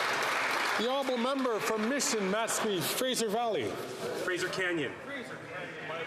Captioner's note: some Applause